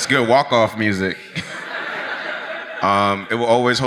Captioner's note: audience laughs